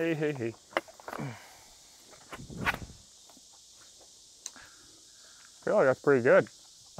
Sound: silence

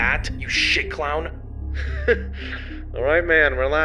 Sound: laughs

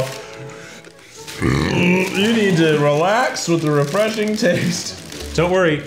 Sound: burping

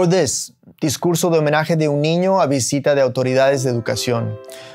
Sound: speaking Spanish

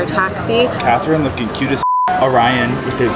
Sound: beep

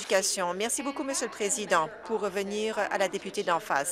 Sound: applause

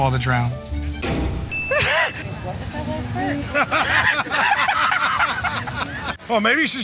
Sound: laughter

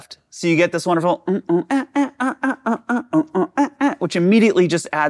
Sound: humming

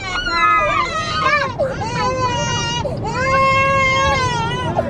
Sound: crying and screaming

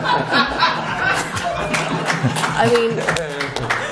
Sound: laughter

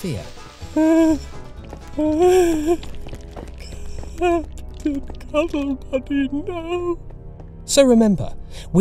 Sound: whimpering

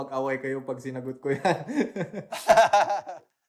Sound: laughs

